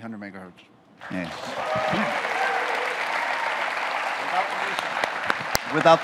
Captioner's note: audience cheers